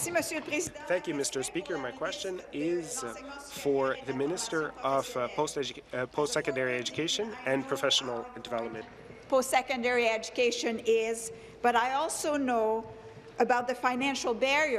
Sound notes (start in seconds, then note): 0.3 applause; 3.6 speaking in French